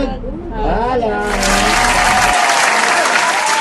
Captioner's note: clapping